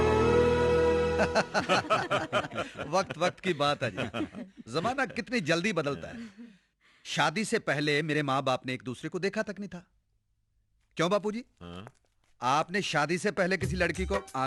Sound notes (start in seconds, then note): 1.2 laughing